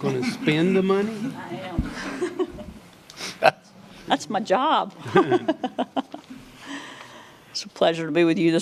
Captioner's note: giggling